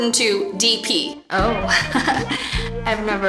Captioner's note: flirty giggles